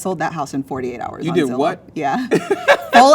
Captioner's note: laughs